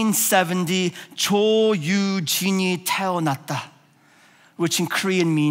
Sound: speaking in foreign language

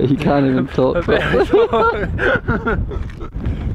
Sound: laughter

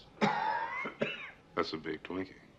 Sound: coughs

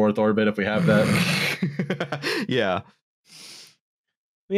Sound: snorts

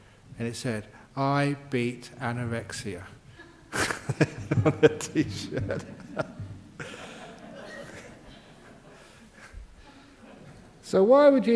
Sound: Ajahn laughs

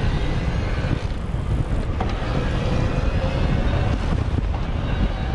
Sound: bicycle whirring

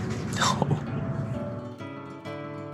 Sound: laughs

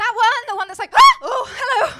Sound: shrieks

